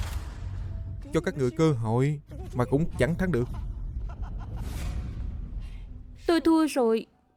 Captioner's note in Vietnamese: tiếng cười